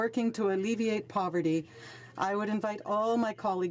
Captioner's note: speaking French